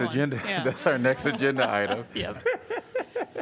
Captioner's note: laughter